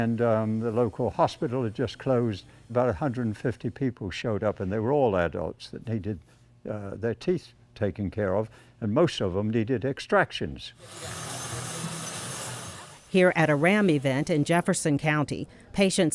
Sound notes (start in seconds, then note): 10.8 drilling